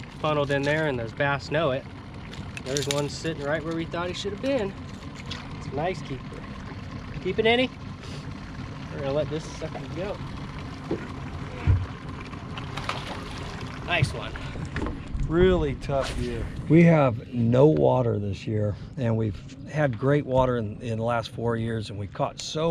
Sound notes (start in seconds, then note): 7.9 boat engine idling; 13.4 fish splashing